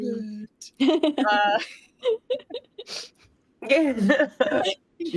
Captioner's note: everyone chuckles